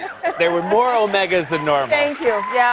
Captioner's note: cheers and applause